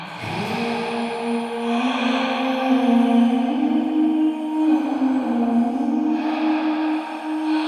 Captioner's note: artists vocalizing; person inhaling and exhaling